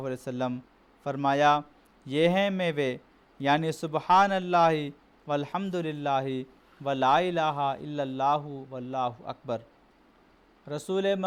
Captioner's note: arabic prayer